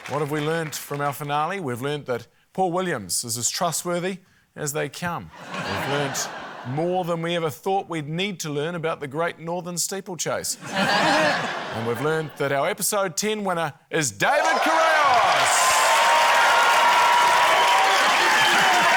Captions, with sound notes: What have we learnt from our finale? We've learnt that Paul Williams is as trustworthy as they come. We've learnt more than we ever thought we'd need to learn about the Great Northern Steeplechase. (LAUGHTER) And we've learnt that our episode 10 winner is David Correos! (CHEERING, APPLAUSE)